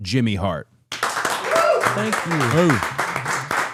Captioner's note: crowd clapping